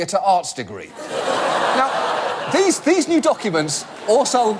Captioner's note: audience laugh